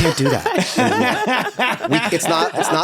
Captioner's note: everyone laughs